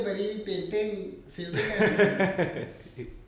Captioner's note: Dara and Aurangzeb laugh